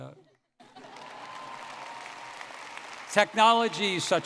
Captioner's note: audience clapping and cheering